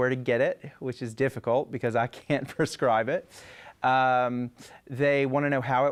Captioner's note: chuckles